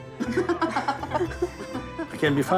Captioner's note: laughing